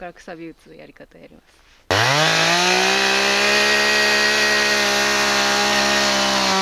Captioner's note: chainsaw